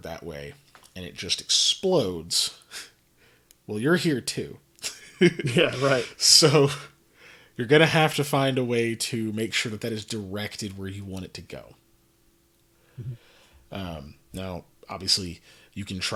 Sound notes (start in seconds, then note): 5.1 laughs